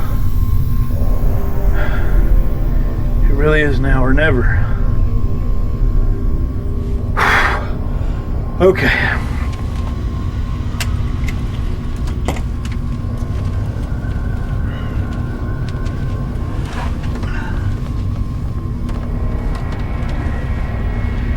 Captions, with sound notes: (tense music) It really is now or never. (sighs) Okay. (tense music)